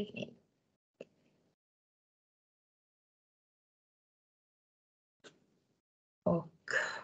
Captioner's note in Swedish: Tystnad